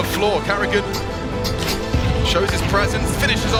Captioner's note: explosion booming